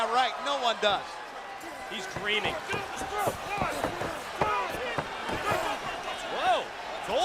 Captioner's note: crowd chatter